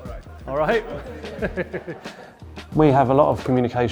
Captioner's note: laughs